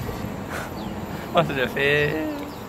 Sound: laughs

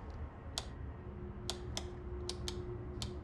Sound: light switch clicks

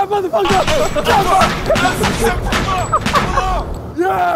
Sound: gunshots booming

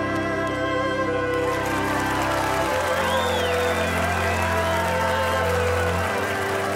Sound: applauding

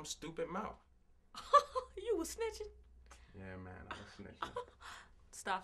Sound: laughs

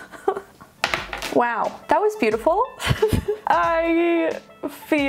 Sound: laughing

